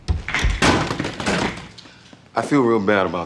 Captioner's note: chair slamming